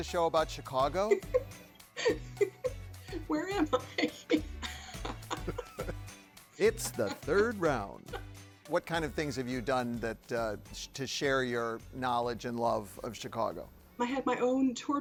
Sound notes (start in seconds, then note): 0.2 laughs; 4.2 chuckles faintly